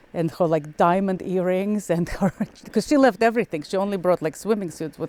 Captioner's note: laughs